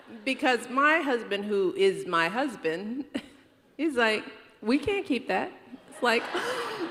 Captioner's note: laughter